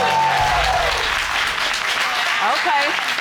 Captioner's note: audience cheering